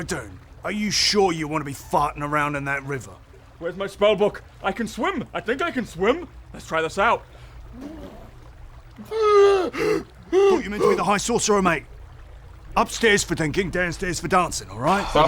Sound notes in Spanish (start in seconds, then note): 9.5 Bocanada de aire